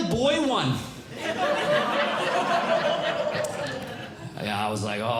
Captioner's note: audience Laughing